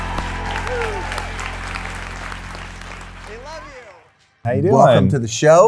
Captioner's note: audience applauding